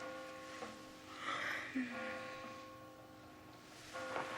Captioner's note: Marlee sighs; Marlee yawning